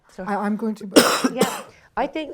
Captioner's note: coughs